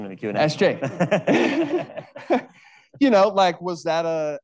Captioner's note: attendees laughing